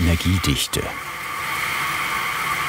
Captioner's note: hissing